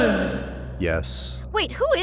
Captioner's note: voiceover